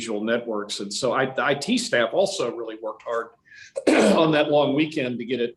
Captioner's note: clears throat